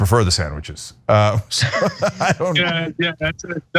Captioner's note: laugh